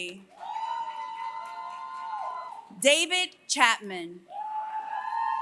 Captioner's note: applause; applause